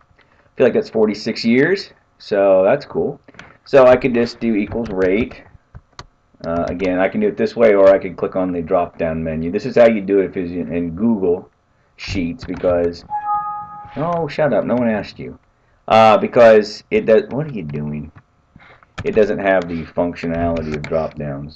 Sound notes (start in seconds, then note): 13.1 chime